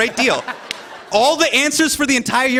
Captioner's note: laughter